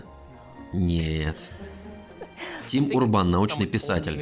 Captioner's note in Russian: оба хихикают